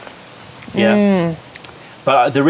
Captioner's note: sips tea